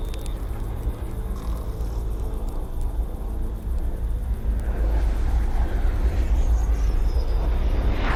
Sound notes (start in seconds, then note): 4.9 jet engines roar